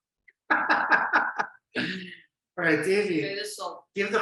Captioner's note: laughing